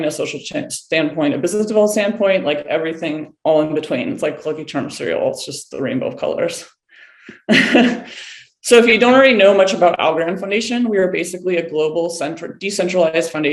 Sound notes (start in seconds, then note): 7.3 laughing